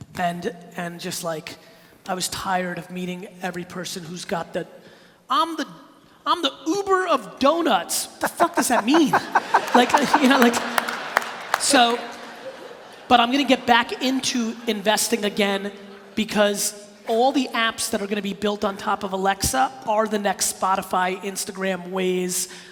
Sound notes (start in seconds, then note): 8.2 laughing